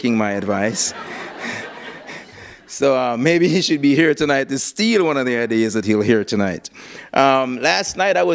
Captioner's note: laughter